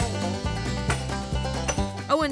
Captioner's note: hammering